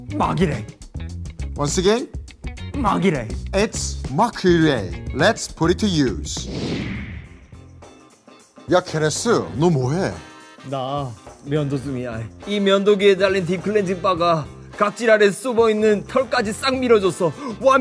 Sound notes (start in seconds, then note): none